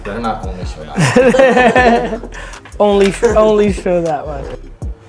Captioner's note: sighs; laughs